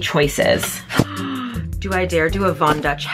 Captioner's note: gasps